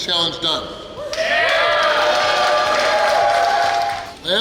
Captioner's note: cheering & Clapping